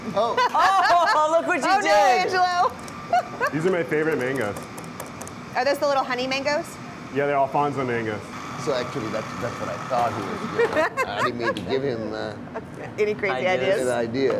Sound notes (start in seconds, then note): 7.9 laughing